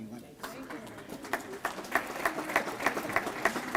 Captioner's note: applause